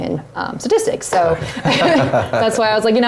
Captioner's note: laugh